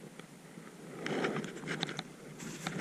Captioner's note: shuffling